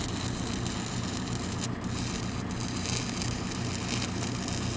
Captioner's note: welder sputtering